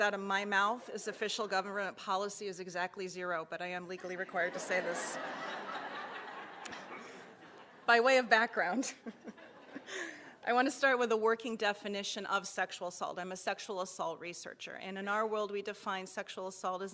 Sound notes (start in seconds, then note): 4.2 laughter